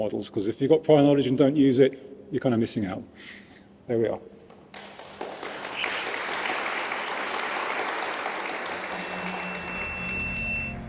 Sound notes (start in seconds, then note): 4.7 applause; 8.8 drone-like music